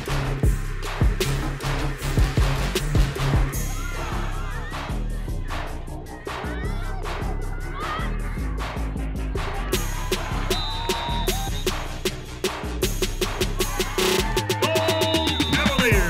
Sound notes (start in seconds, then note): 3.5 shouts; 10.1 whistle blows; 13.4 shouts